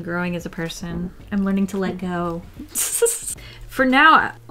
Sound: laughs

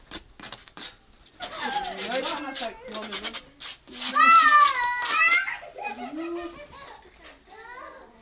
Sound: kids' noise

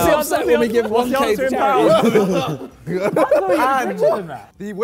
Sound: Sidemen laugh

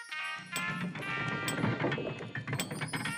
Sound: elevator music plays; crashing sound

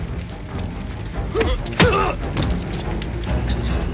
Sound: grunting

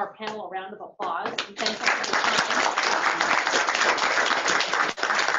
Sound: applause

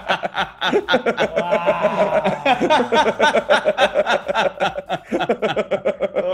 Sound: laugh

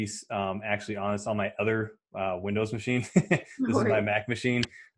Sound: laughs

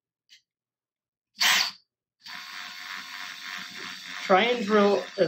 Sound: drill sound

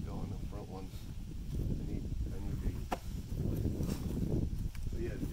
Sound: wind noise

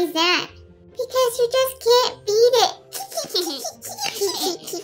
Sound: tee hee hee

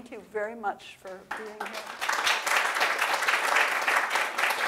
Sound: audience applause

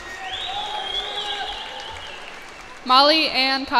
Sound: cheers and applause

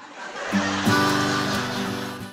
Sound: laugher & Applause

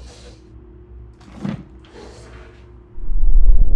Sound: vacuum movement; ominous music

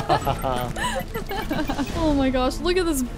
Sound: both laughing

